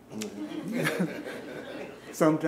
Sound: laughing

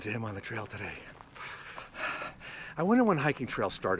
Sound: sigh

